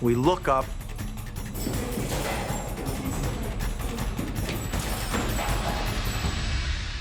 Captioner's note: frantic footsteps